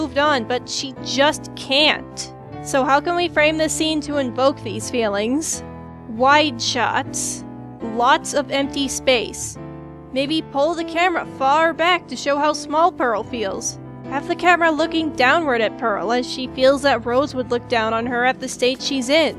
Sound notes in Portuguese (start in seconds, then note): none